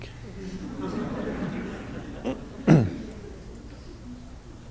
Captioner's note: audience laughing